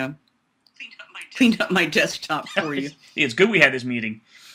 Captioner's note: laughs